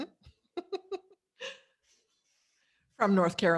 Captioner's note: laughs gently